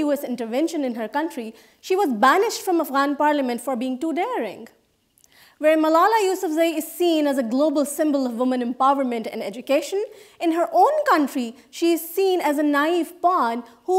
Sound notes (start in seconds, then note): none